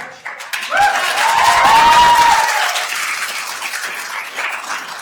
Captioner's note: attendees applauding